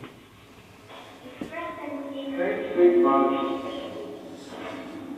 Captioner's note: child's voice